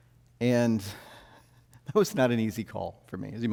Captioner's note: chuckles